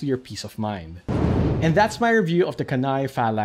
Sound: whooshing

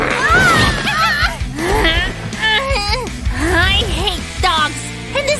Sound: snoring; yawns; pi-pi-pi

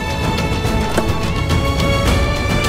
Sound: car door opens

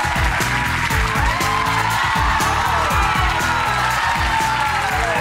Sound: audience cheers; upbeat music

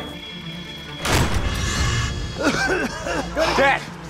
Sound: coughing

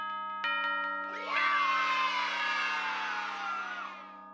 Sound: kids cheering in the background, saying 'yay!'

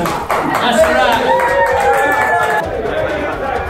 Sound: bridal party applauses

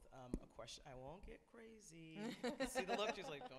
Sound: laughs

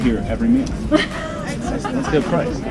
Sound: laugh

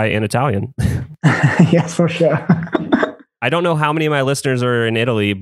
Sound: laughs

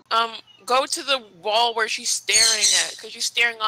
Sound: screeching loudly

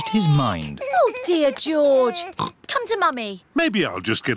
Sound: oinks

